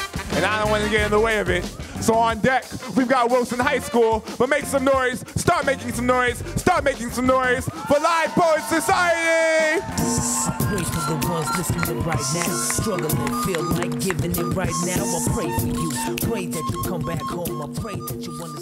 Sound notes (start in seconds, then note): 9.4 audience cheering; 10.6 upbeat hiphop music